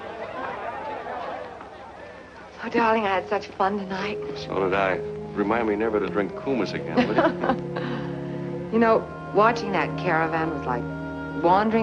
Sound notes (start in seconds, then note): 6.9 chuckles